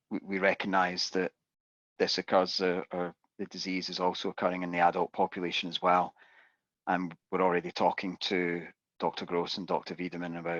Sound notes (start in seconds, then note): none